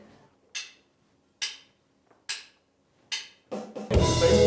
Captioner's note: drum sticks tapping